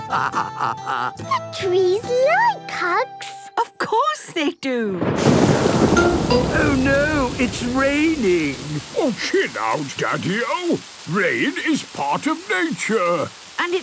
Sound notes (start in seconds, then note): 0.0 laughing; 5.0 thunder booming